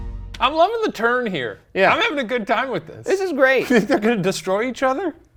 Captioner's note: disembodied laughing